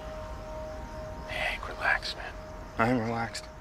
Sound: quietly

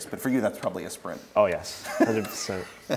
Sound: laughs

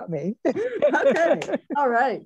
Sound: panelists laugh

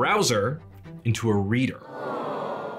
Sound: crowd groans

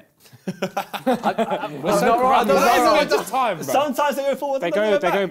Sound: crowd mumbling

